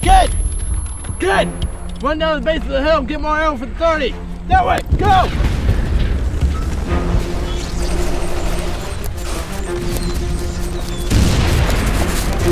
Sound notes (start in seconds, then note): 6.9 dramatic music; 6.9 gunshots booming